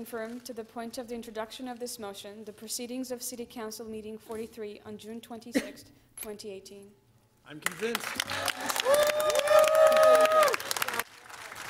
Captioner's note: applause